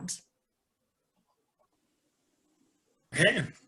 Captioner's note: silence